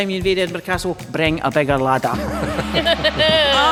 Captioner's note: gong sounds